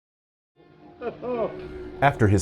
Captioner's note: Doctor chuckles